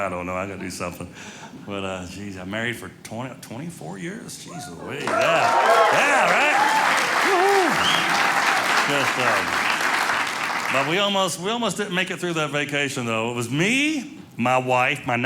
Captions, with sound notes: I don't know, I gotta do something. But we've been married for 24 years, geese louise. Yeah, right, woo hoo! (audience cheering) But we almost didn't make it through that vacation, though. It was me, my wife,